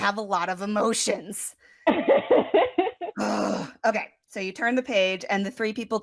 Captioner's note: wheeze laught